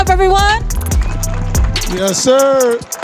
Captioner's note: audience clapping and cheering